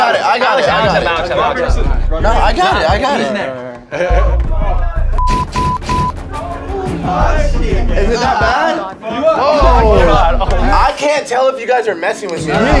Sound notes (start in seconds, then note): 5.2 buzzer beeps; 5.3 door bangs